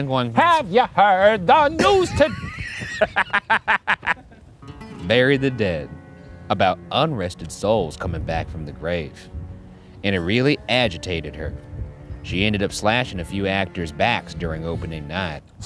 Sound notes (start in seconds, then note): 1.7 laughing